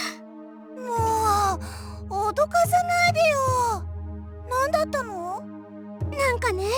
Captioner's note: sigh